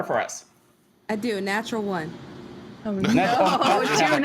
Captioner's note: laughter